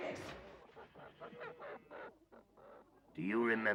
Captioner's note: rooster clucking